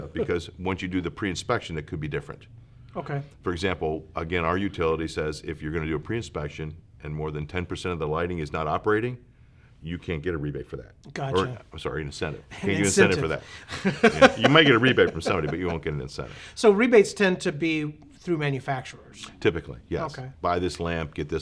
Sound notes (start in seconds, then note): 12.8 laughs